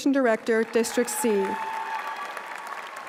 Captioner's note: applause